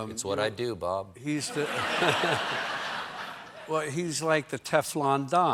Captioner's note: laughter